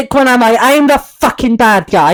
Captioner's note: scottish Accent